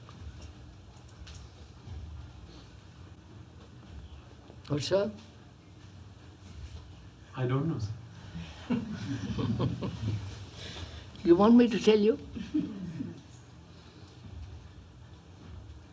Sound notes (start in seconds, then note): 8.4 laughter